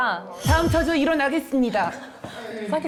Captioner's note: weirdly themed sound effect